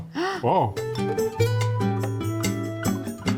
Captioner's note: gasps